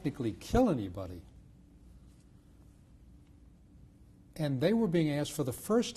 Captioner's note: pauses for 3 seconds